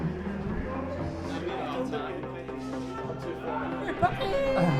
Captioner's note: intense music; men chattering